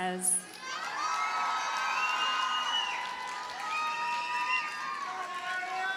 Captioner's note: audience cheers and applauds